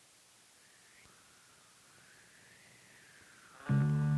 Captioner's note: wind blowing